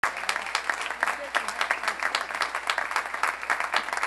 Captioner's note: applause